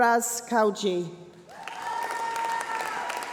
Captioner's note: applause